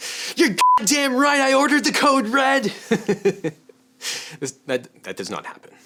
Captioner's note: beep; laughs